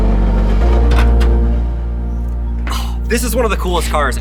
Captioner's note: vehicle door clacks